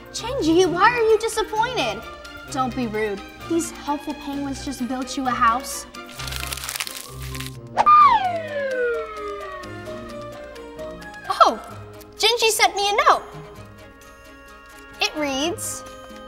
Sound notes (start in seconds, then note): 7.8 plane whirring